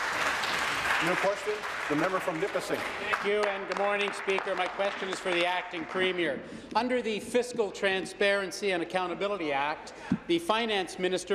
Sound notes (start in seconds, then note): 2.8 applause